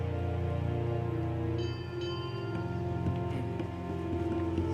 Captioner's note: bell ringing